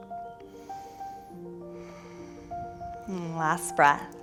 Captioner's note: deep breathing